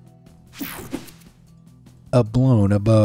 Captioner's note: screen whooshing